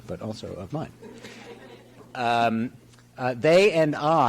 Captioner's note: audience chuckles